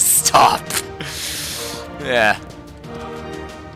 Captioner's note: laugh